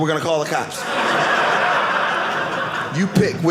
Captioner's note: audience laughing